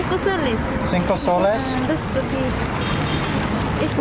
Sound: Spanish

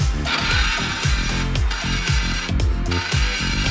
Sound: engine stalls

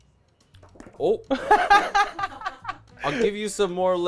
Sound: laughs

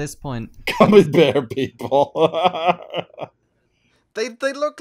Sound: laughter

